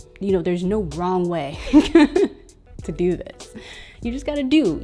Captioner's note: laughing